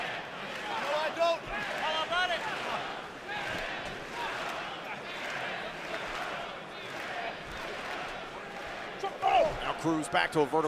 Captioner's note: fans chanting